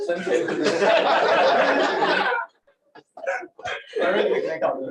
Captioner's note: laughter